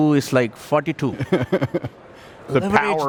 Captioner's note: laughing